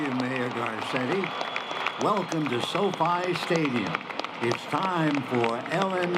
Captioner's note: applause